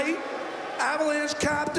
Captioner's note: booing